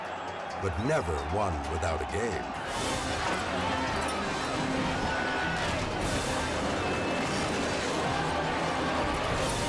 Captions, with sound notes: but never one without a game. (tense music) (crowd screams)